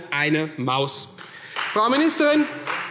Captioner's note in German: Beifall